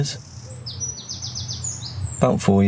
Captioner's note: birds tweeting